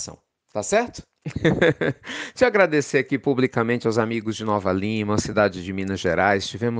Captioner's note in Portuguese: Risos